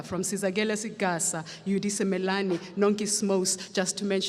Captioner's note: speaks foreign language